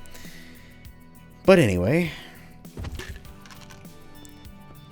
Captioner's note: painkiller bottle rattling